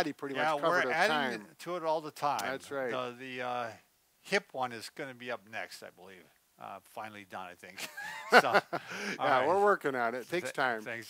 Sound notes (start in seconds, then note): 7.8 both laugh